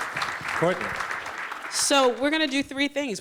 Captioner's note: applause